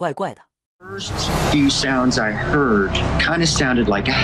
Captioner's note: eerie howl